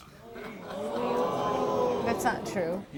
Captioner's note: crowd gasping